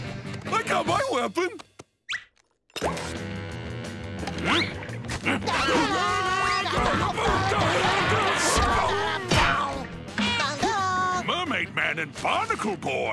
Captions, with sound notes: I got my weapon! [grunting] [singing] Mermaid Man and Barnacle Boy?